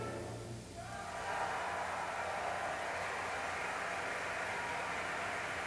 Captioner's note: applause